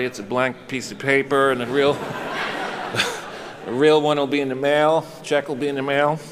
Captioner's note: chuckles